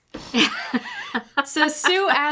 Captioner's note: chuckles